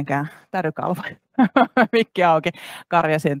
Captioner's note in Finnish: Nauraa